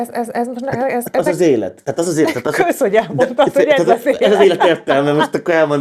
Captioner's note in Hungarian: nevetés